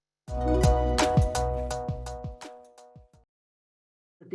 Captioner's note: bright sound